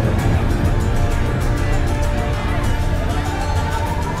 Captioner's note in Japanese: ざわめき